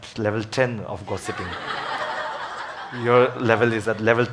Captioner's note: audience laughs